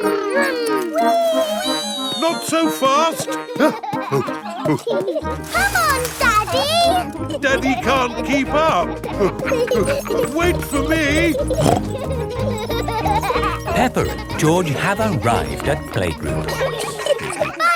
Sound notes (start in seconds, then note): 4.1 panting; 4.1 peppa and george laughing; 11.9 snorts